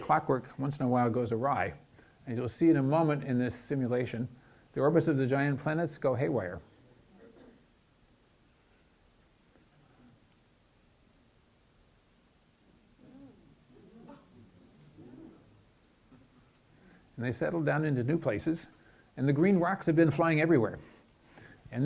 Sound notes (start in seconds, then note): 12.8 audience gasps and exclamations